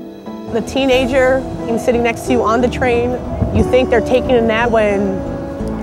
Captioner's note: voiceover